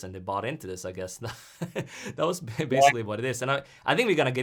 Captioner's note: laughs